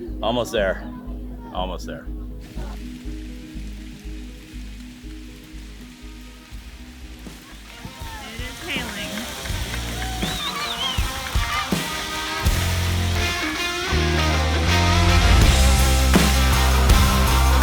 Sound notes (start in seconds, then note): 3.0 rain pattering; 10.5 energetic rock music